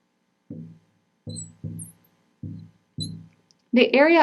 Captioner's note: marker scratching